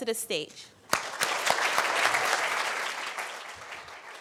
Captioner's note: applause